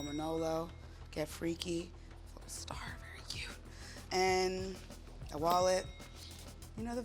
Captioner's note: ding; ding